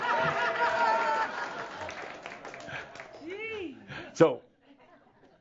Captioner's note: Adamus chuckles and more audience laughter and some applause